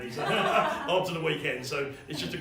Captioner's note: laughing